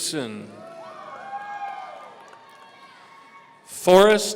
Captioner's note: audience cheering